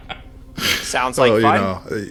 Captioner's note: laughs